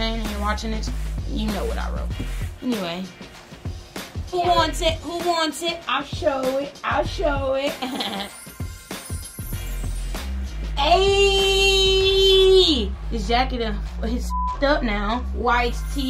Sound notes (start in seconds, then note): 7.6 laughs